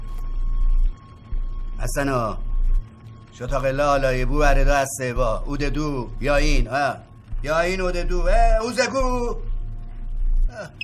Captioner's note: talking in a made up language